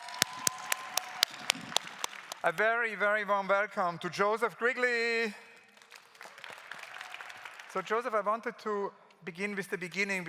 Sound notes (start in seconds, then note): 0.0 claps; 5.6 claps